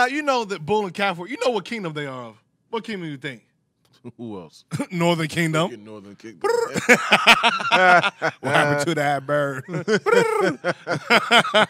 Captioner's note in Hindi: हस रहा